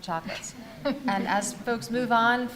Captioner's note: audience laughs